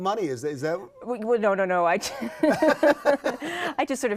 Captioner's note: both laugh